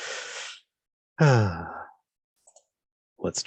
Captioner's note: sigh